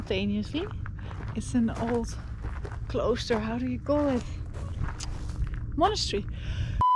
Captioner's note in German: Niederländisch